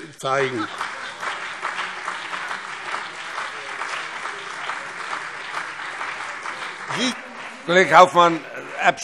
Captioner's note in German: Beifall BÜNDNIS 90/DIE GRÜNEN und CDU